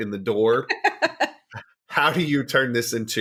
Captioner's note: laughs